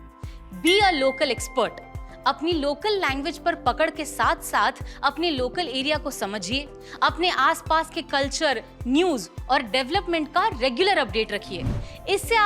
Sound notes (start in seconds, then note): 3.5 speaking hindi